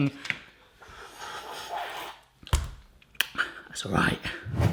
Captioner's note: slurping